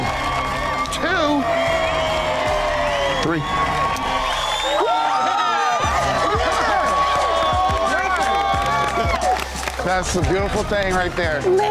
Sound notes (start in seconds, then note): 0.0 dramatic music; 4.1 all cheering